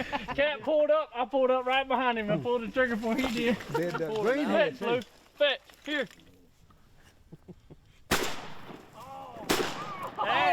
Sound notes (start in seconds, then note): 3.1 laughter; 9.4 gunfire